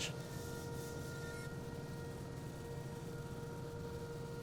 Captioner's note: machines whirring